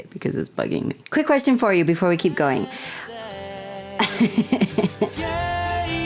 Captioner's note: laughter